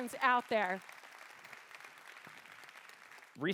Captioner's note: applause